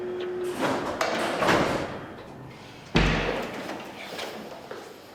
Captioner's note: doors slamming